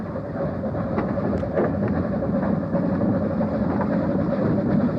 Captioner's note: train passes